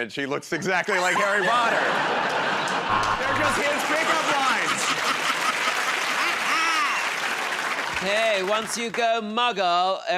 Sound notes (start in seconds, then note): 1.0 laughter; 5.4 cheers and applause; 5.4 laughs